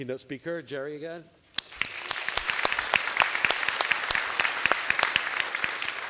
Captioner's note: applause